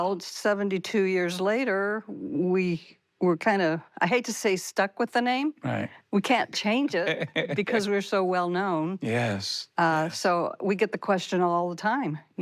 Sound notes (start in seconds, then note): 7.0 laughs